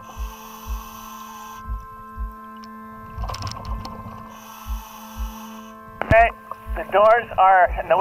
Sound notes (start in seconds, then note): 0.1 breathing